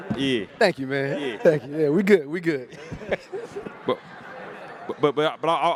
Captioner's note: laughs